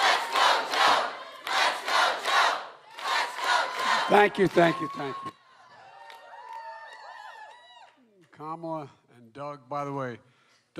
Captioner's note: cheering